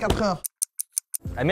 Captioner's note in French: tic-tac